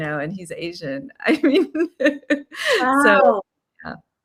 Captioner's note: laughing